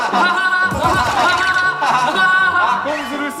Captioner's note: hahahaha